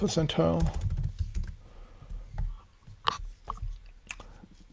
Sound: keyboard clacking

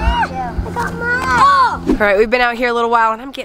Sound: yells

